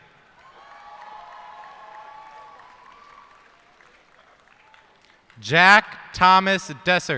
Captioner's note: cheers and applause